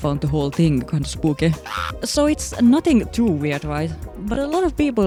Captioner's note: screeching